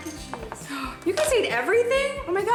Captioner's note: gasps